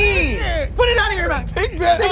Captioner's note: laughing